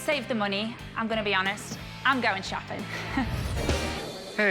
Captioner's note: chuckles